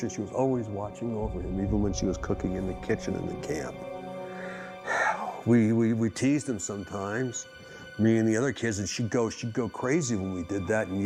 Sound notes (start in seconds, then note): 4.2 sighing